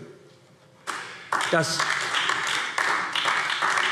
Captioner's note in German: Beifall AfD